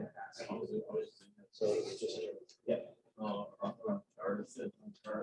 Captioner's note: none